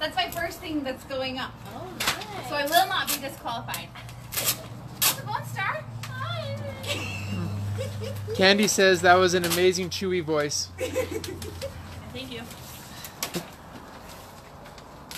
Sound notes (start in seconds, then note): 6.5 laughs